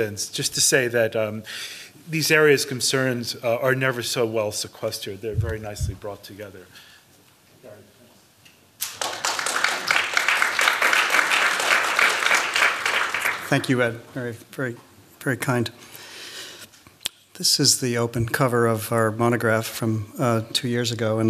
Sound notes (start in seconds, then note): 8.8 applause